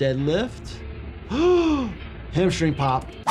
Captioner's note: gasps